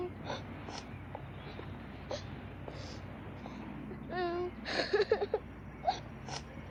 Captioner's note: girl crying